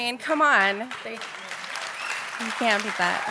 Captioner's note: audience clapping